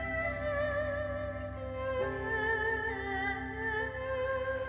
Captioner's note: exhales slowly; inhales deeply